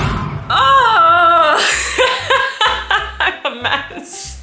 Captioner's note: tense music; laughing